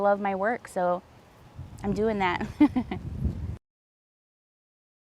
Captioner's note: laughs